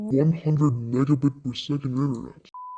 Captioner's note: beep